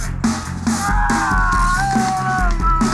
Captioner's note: groans